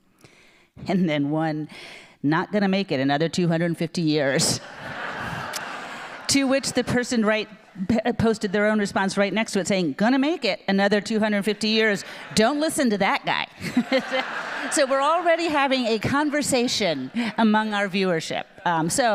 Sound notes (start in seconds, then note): 4.6 audience laughing; 14.0 audience laughing